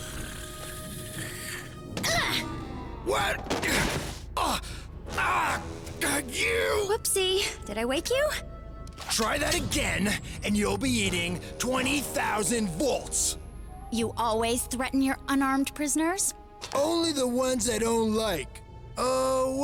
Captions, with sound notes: (KICKING GRUNT) WHAT?! (IMPACT GRUNT) (GRUNTING) YOU! WHOOPSIE, DID I WAKE YOU? TRY THAT AGAIN AND YOU'LL BE EATING 20,000 VOLTS! YOU ALWAYS THREATEN YOUR UNARMED PRISONERS? ONLY THE ONE'S I DON'T LIKE.